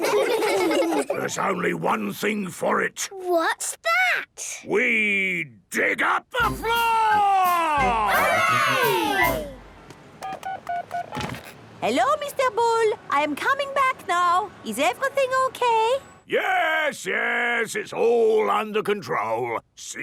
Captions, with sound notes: - There's only one thing for it. - What's that? - We dig up the floor! - Hooray!!!! - (dial tones beeping) - Hello, Mr. Bull! I am coming back now. Is everything okay? - Yes, yes! It's all under control.